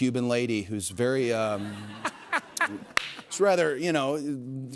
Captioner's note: laughter